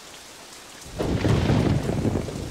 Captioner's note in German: Regenprasseln, Donnergrollen